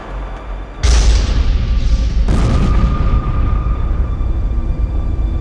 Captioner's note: thunderous booming; droning instrumental music